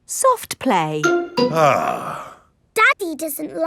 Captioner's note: sighs